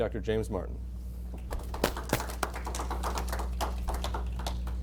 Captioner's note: applause